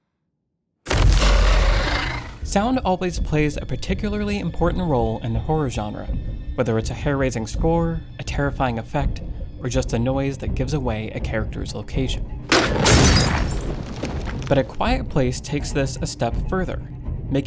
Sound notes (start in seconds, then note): 12.5 crash